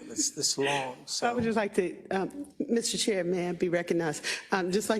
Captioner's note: laugh